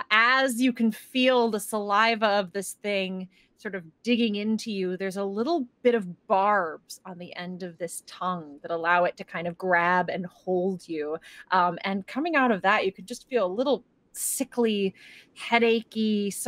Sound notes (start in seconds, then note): none